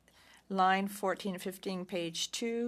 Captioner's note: speaking French